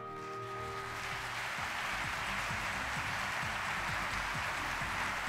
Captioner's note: audience applauding